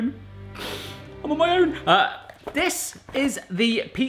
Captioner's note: dramatic music; sniffles